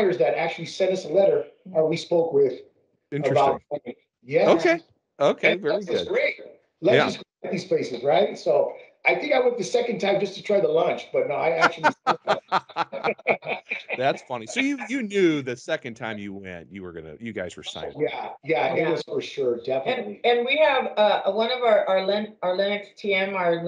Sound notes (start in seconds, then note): 11.6 laughing